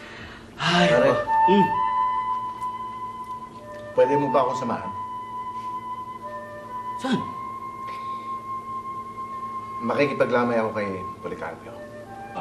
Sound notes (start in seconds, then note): 0.6 sighs